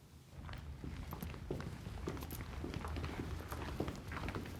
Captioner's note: footsteps thumping